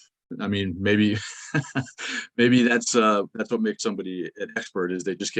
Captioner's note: laughs